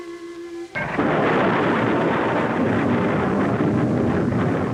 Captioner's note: rocket rumbling